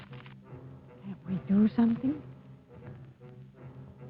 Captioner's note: quietly